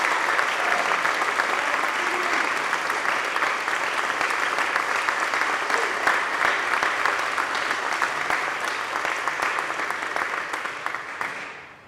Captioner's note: cheers and applause